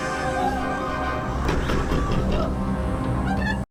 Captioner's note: snake hissing; door banging